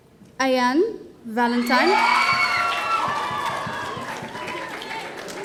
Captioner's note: audience cheering